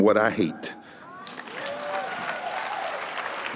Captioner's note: applause